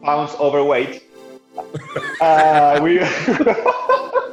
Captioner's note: laughs